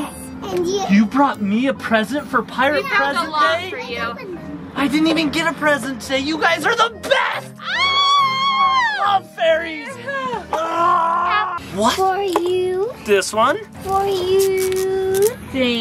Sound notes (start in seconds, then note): 7.9 yells; 10.6 yells